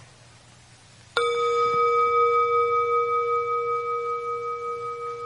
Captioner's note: bell chiming